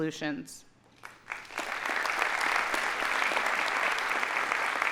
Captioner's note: audience applauding